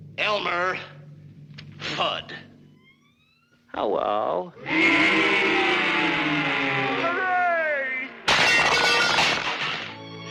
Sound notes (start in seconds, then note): 4.6 crowd booing; 8.3 objects clattering